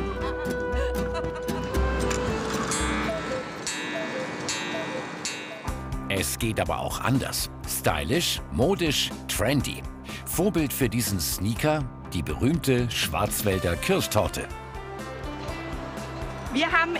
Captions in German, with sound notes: (Leises lachen im Hintergrund) (Kuckucksuhrläuten) Es geht aber auch anders. Stylisch, modisch, trendy. Vorbild für diesen Sneaker: die berühmte Schwarzwälder Kirschtorte.